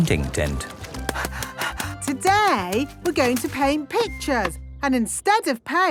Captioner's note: panting